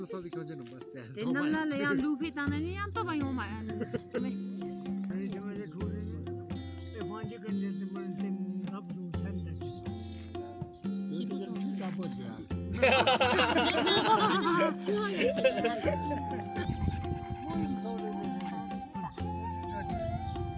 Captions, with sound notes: And if by chance there is wind even that doesn't come When we were kids, we used to be on the grass by the river dancing and playing drums You must have had a lot of water then (everyone laughs) The government gave us a relief fund of 1,000 INR last year.